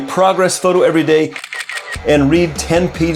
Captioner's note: camera lens clicking